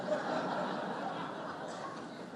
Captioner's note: laughter